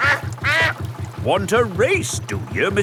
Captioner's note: quacks